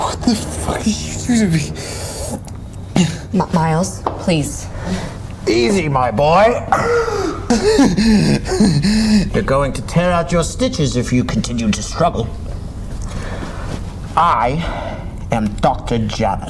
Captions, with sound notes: What the fuck did you do to me? - Miles, please. - Easy, my boy! (Miles gasps) (Miles pants) You're going to tear out your stitches, if you continue to struggle. I am Dr. Janus.